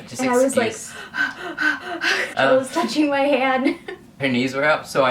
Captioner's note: breathes deeply